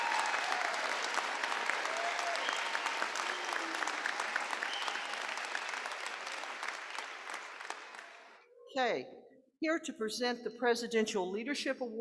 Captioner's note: applause